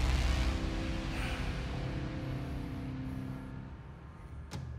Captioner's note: sighs